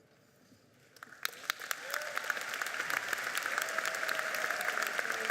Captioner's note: audience applauding